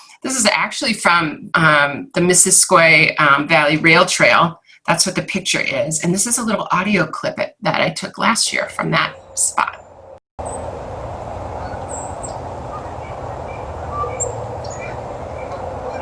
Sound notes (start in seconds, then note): 11.2 geese cawing